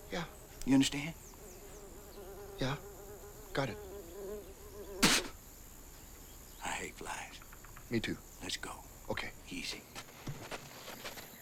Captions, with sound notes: - Yeah. - You understand? - Yeah, got it. (fly buzzes) (Latrell spits) - I hate flies. - Me too. - Let's go. - Okay. - Easy.